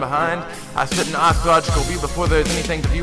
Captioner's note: breathe